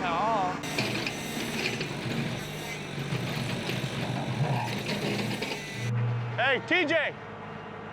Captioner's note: scraping sound